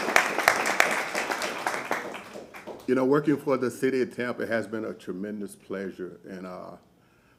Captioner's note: applause